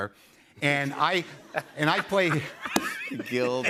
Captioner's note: laughs